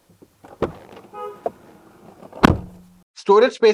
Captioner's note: MG ZS EV Door Thud